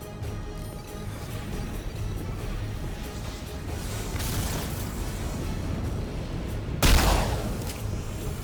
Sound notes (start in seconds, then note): 0.0 dramatic music; 3.4 gun firing; 7.8 dramatic music